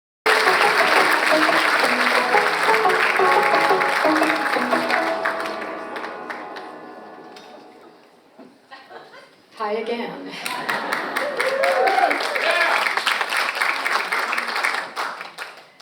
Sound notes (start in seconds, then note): 0.2 audience applauds; 0.2 upbeat music plays; 10.4 audience applauds and cheers